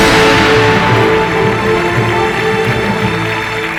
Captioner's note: applause